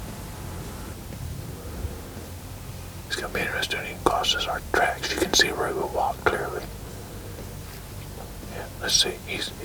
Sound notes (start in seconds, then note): 2.4 whispering